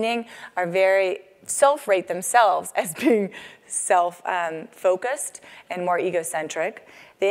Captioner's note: laugh